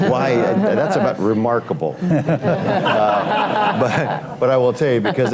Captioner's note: laughter